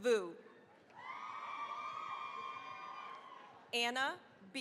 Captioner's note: cheering, applause